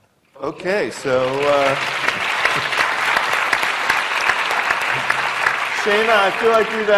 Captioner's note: applause